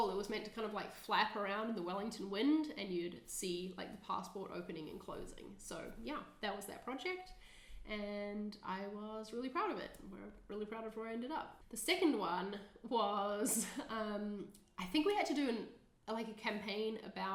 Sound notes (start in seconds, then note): 13.4 chuckling